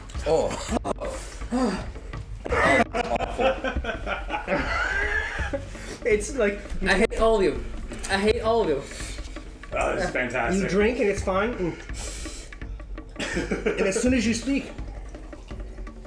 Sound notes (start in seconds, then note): 4.9 maniacal laugh